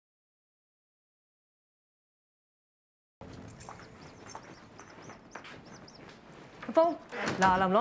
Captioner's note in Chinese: 鳥叫聲